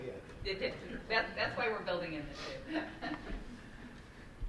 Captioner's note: laughs